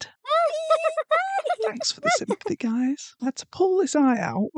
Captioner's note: laughter